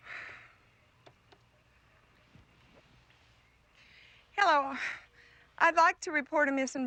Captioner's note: sighs